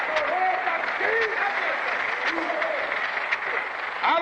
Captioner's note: applause continues